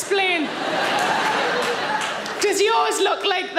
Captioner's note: audience laughing